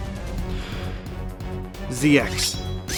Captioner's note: deep breath